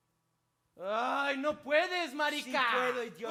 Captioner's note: speaks in Spanish